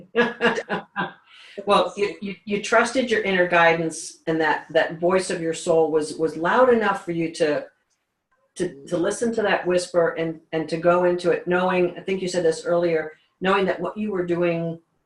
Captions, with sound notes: - (laughs) Well, you trusted your inner guidance and that voice of your soul was loud enough for you to listen to that whisper and to go into it knowing, I think you said this earlier, knowing that what you were doing